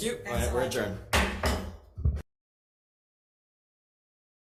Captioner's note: gavel thuds